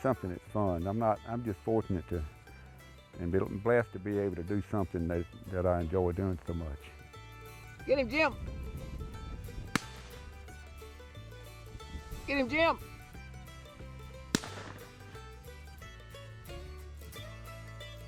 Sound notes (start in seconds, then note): 9.7 loud gunshot; 9.9 upbeat country music; 13.7 upbeat country music